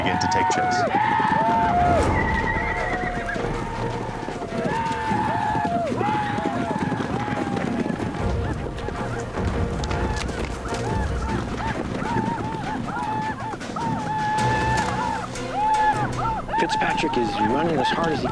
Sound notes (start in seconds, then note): 2.3 whooping, horses neighing; 5.6 hoofbeats; 7.8 whooping